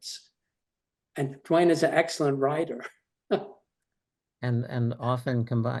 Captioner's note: chuckles